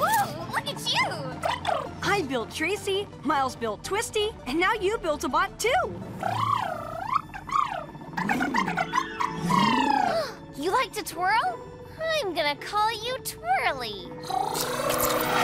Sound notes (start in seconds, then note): 0.0 trilling; 6.0 trilling; 9.4 gasps; 14.2 trilling